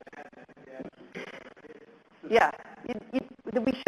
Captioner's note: audience murmurs